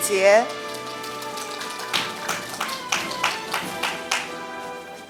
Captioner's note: audience applauding